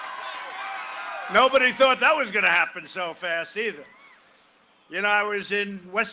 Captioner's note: cheering and applause